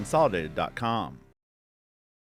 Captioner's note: track and field sounds